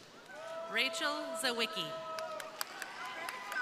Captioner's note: crowd cheering; crowd applauding